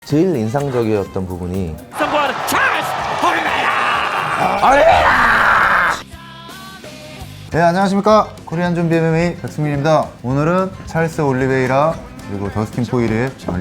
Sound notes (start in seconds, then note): 1.9 audio from the fight